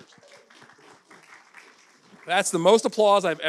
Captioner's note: audience applauding